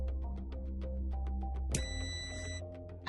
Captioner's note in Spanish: sonido: piiiii